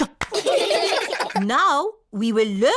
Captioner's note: all giggling